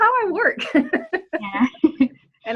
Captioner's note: laughs